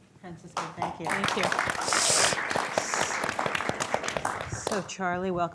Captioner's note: audience applauding